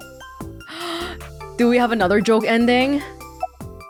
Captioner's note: gasps